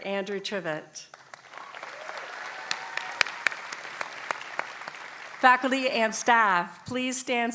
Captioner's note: applause